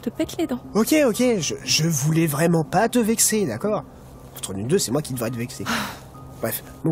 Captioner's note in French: soupire blazé